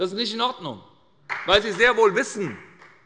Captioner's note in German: Beifall bei Abgeordneten der SPD und der FDP